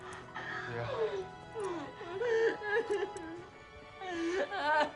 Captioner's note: Sally crying